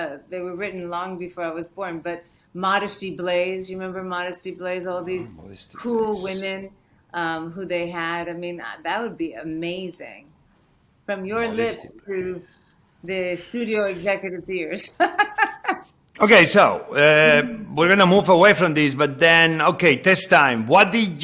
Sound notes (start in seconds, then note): 6.0 José speaking softly; 14.8 laughing